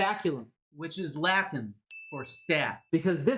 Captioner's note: ding sound